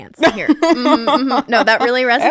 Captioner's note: laughing